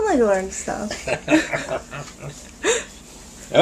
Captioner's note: laughter